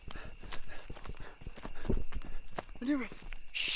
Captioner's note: heavy breathing